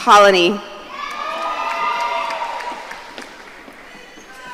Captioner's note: audience cheering